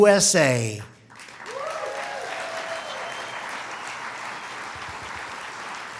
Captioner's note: applause